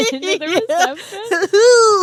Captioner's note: both laughing